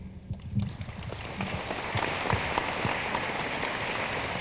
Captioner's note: room applauds